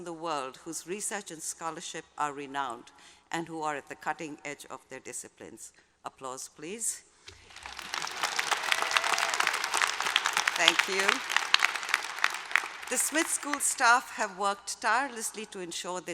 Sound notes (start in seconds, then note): 7.3 applause